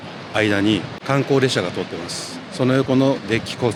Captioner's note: a sightseeing train runs through